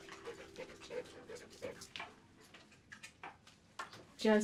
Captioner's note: dog panting